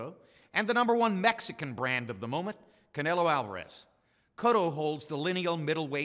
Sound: none

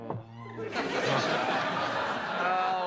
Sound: laughter

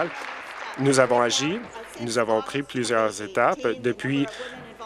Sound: applause

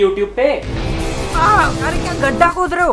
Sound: intense violent scratching

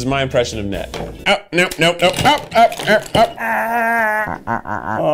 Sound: mimics Ned's noises; makes strange noises

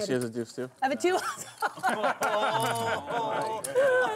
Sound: laughing

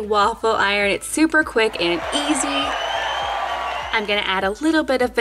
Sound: crowd cheering

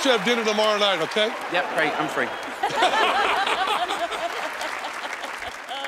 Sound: laughter

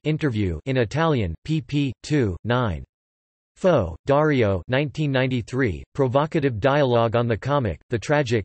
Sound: in Italian

